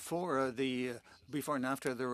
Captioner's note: speaking French